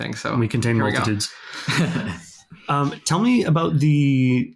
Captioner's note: laughs